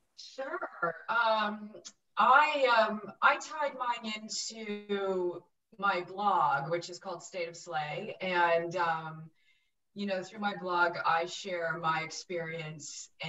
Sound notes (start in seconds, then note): none